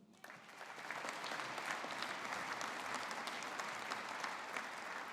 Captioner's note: audience applauding